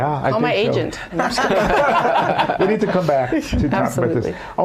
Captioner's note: laughter